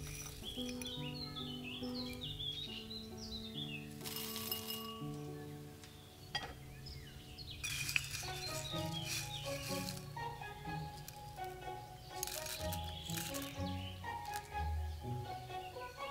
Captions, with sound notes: *roots rustle* Dried Orange Peel